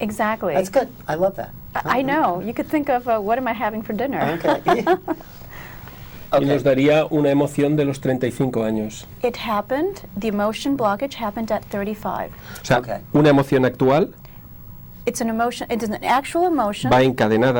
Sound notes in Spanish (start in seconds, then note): 6.9 risas